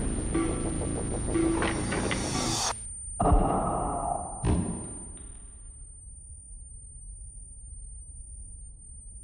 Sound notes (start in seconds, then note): 3.2 gunshot bangs